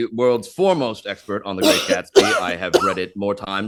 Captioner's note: Hana coughs